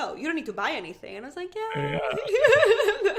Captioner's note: laughing